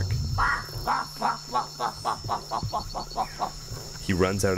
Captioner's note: making barking sounds